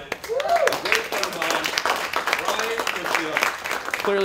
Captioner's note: applause